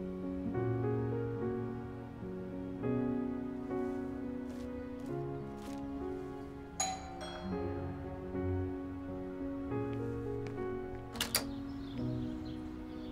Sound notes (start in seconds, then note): 6.8 doorbell ringing; 10.6 birds chirping